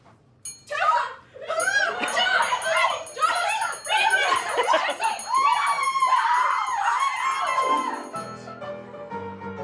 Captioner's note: incoherent screams